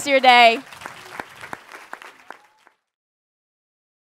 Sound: audience applauds

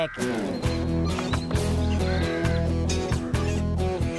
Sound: tap! Tap!

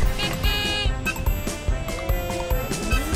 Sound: sfx: traffic noise

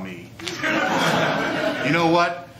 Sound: laughter

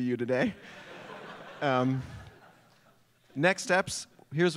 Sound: laughter

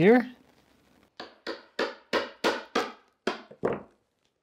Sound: hammer taps

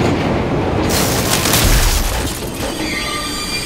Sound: whooshes; metal clanking; electricity crackles; screeches

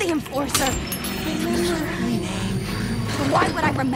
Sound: voices echoing: Remember her name

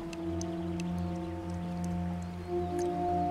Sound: water dripping

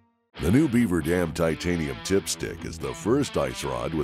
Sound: voiceover

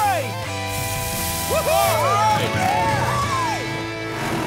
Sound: cheering

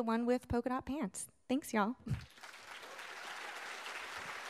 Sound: applause

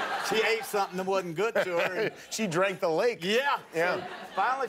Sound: laughter

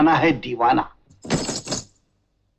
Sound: anklets tinkling

